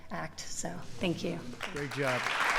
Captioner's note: applause